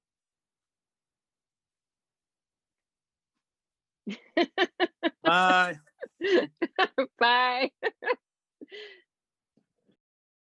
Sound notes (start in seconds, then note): 1.1 long pause; 1.8 laughs